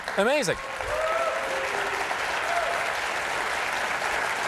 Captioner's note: cheers and applause